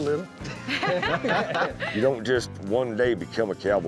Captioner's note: all laughing